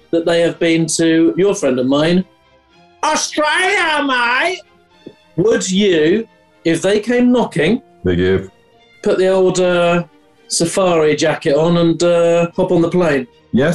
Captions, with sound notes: ...that they have been to your friend and mine: [BAD AUSTRALIAN ACCENT] ...Australia, mate! Would you – if they came knocking – Big "if". – put the old, er... ...safari jacket on, and, er... ...pop on a plane?